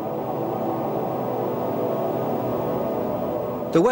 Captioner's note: wind howling